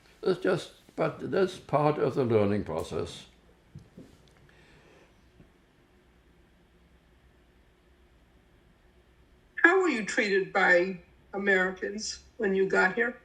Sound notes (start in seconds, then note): 3.2 pauses 6 seconds